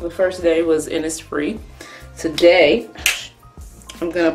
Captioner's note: hushed